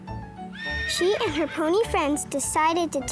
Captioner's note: horse neighs